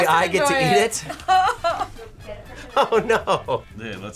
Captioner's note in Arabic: كلاهما يضحك